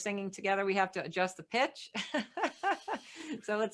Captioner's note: laughs